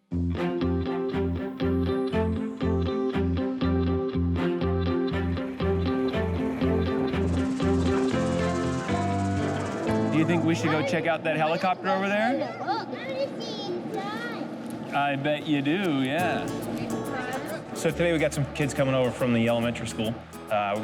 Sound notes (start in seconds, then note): 0.7 contemplative upbeat music; 6.3 helicopter rotor thumps